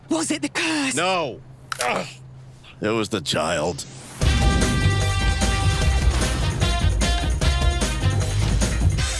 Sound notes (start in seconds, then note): 1.3 grunt; 1.7 shoulder clicks in place